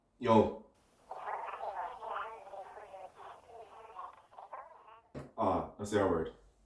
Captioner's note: talking